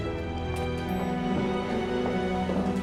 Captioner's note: elevator bell dings